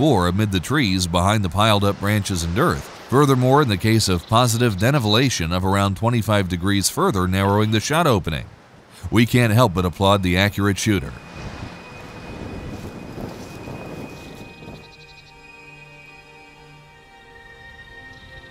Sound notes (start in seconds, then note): 12.7 soft music; 12.7 wind blowing